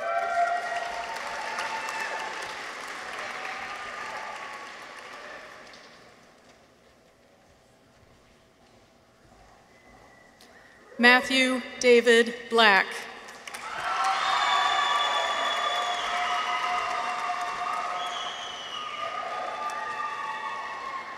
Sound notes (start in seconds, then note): 0.0 people cheer; 0.0 audience applauds; 13.3 audience applauds; 13.4 people cheer